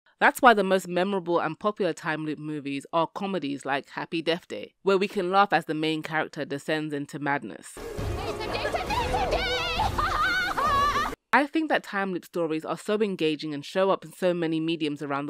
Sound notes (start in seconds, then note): 11.3 maniacal laughter